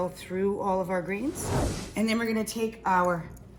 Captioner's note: whooshing sound